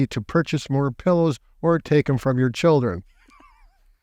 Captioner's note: laughing